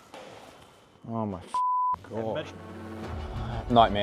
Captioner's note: beep